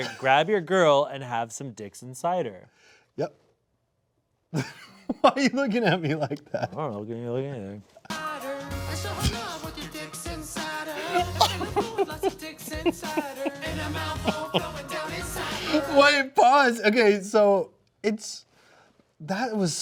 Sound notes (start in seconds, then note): 4.5 laughing; 10.9 laughing